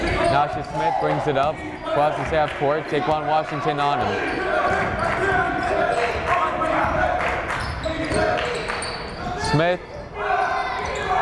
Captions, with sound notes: Nasha Smith brings it up, but he's half court, Taequann Washington on him. (yelling) Smith.